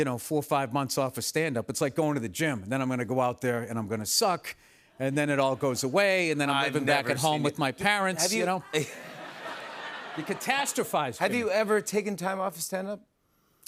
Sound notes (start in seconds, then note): 8.2 laughter